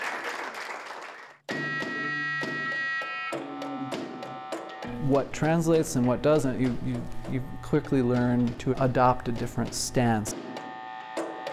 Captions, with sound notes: [buzzing] What translates and what doesn't, you quickly learn to adopt a different stance.